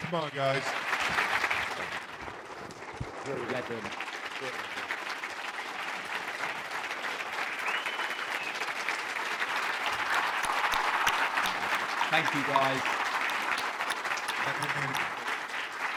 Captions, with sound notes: - Come on guys. (applause) - Thank you. (whistles) (cheering) - Thank you guys.